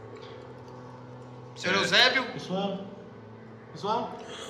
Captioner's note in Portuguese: Voz abafada